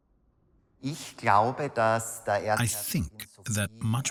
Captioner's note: speaks in foreign language